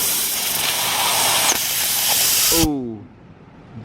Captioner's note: sizzling; pop